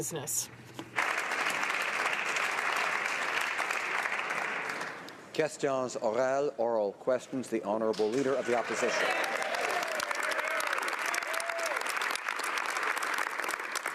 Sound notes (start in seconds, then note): 4.4 applause